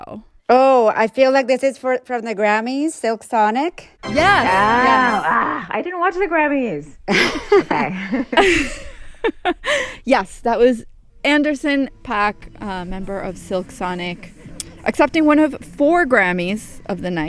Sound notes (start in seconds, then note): 4.0 soundbite of victory tune; 7.1 laughter